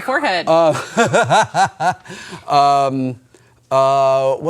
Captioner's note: laughs